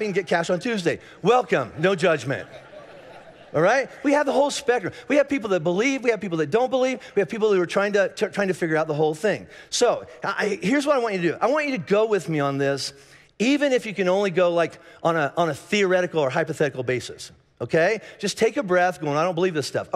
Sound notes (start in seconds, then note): 2.8 congregation laughing